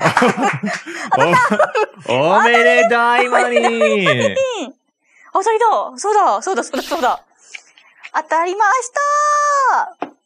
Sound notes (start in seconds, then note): 2.6 laughs; 8.9 laughs